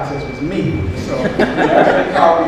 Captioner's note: audience laughs